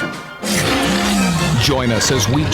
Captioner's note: dinosaur roars